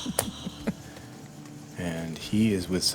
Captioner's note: laughing